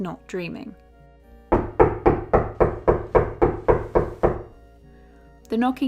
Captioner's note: loud knocking